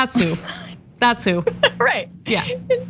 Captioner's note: laugh